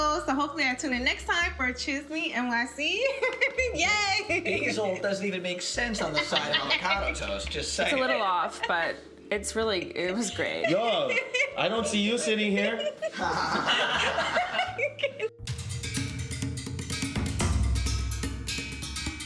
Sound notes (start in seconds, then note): 4.0 chuckles; 12.3 chuckles; 15.7 dynamic upbeat music